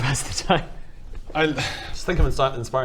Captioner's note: sigh